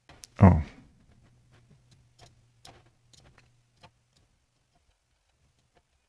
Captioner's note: silence